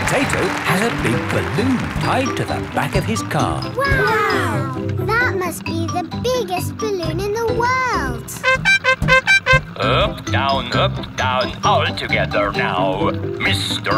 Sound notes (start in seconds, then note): 8.4 horn beeping